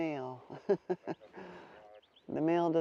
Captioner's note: laughs